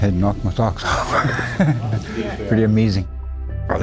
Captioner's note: laughing